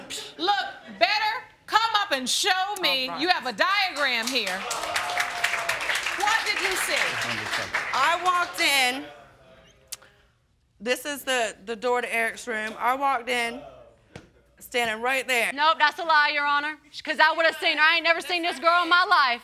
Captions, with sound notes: Look, better come up and show me, you have a diagram here. (AUDIENCE CHEERS) What did you see? I walked in... This is the door to Eric's room. I walked in... Standing right there... Nope, that's a lie, Your Honor. 'Cause I would have seen her, I ain't never seen this girl in my life.